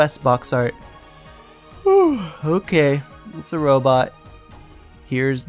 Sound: yawn

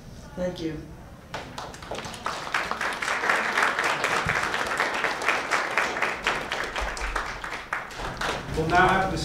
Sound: applause

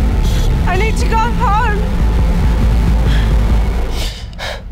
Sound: B's breathing rapidly; Billie gasps

